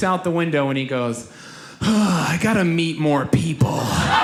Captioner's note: sighs; audience laughs